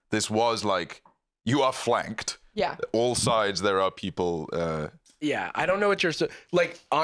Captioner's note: none